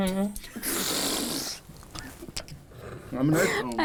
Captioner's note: all laughing